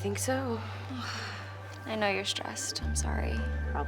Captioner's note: sighs